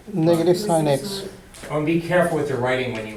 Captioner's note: voiceover